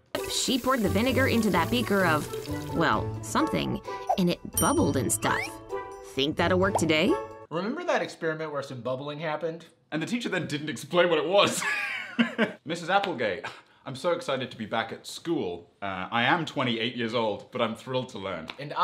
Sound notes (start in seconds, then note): 11.6 laughing